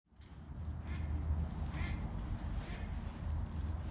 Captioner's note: ducks quacking